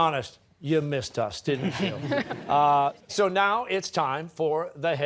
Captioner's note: laughter